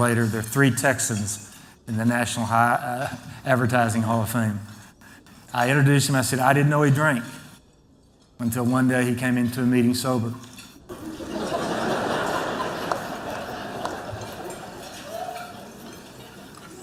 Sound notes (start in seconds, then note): 10.9 laughter